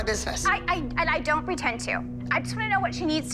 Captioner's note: stammers